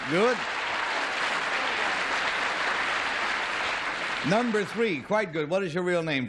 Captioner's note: applause